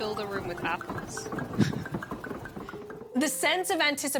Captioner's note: chuckles